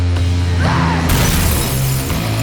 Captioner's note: screaming; glass breaking